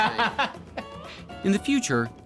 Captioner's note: laughing